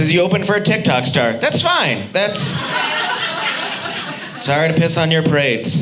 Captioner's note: audience laughing